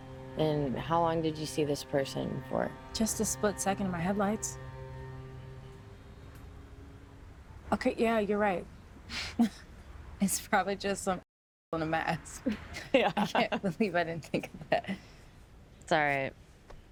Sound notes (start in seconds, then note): 9.6 laughs